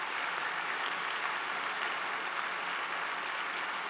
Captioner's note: applause